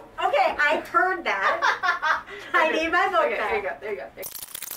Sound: laughter

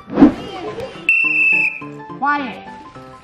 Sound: whistle blows

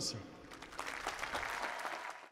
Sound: applause

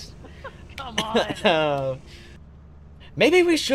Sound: cough

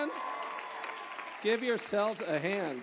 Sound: applause

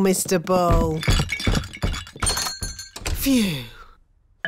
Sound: thumping

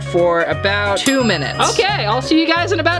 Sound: bell rings

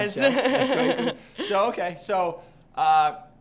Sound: laughs

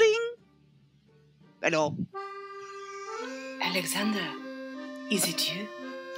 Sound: affecting a fake French accent

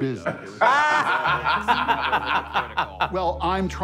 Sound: laughing

